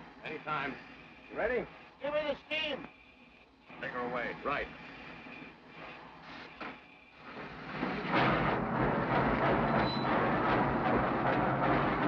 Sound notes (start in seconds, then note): 6.8 train chugs